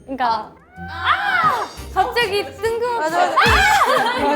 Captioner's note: mimicking her shouting